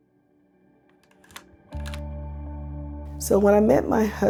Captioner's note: camera shutter clicking